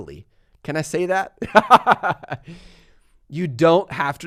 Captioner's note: laughs